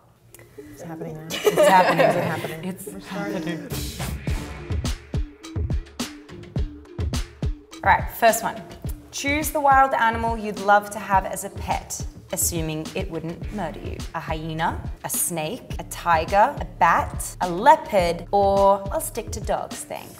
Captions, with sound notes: - It's happening now? (all laugh) - It's happening. - It's happening. - It's happening. (upbeat hip hop music) - All right, first one, choose the wild animal you'd love to have as a pet, assuming it wouldn't murder you: a hyena, a snake, a tiger, a bat, a leopard or I'll stick to dogs, thanks.